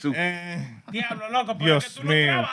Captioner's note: speaking Spanish